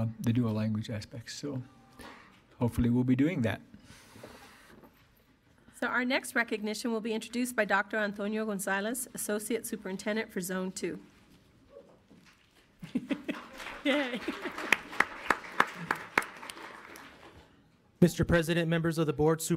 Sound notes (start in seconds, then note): 12.8 laughs; 12.9 audience applauds